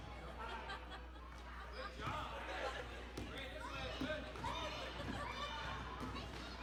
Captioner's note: laughter